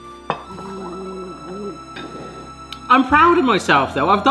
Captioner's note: gargling